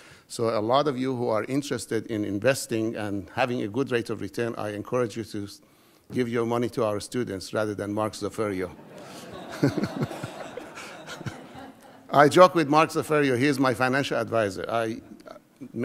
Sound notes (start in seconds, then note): 8.9 laughing